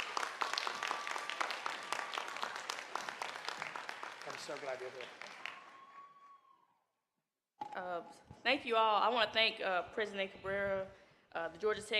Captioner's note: applause